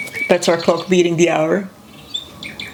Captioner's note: birds chirping